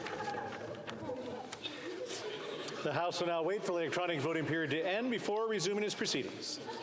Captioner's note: calling of recorded vote